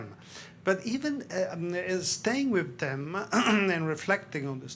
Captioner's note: clears throat